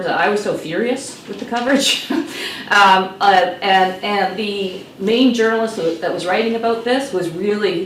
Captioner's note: laughs